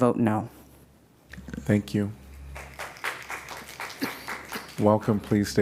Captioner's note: applause